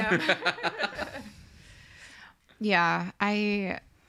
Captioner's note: all laugh